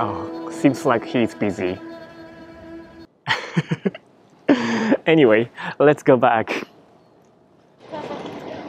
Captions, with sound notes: Oh... Seems like he's busy... [LAUGHS] Anyway, let's go back.